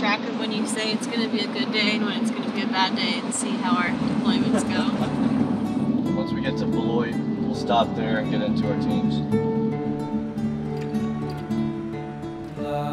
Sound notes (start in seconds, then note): 4.4 laughing